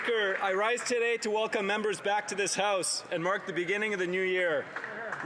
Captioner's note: applause